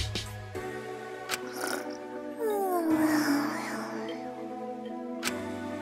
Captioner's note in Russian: хррр